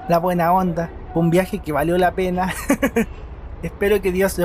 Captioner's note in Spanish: risas